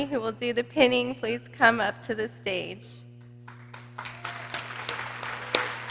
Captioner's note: people cheering